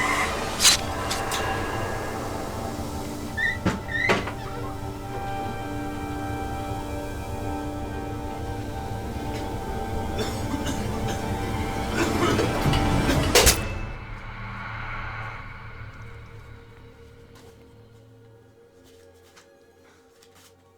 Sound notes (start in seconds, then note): 0.0 screaming; 0.0 blade slicing; 5.4 dramatic music; 10.0 coughing; 12.7 blade slicing